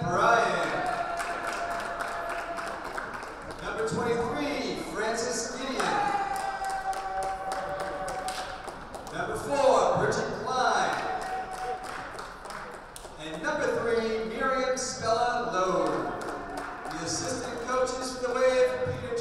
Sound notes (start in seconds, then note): 0.4 clapping; 5.6 clapping; 15.4 team claps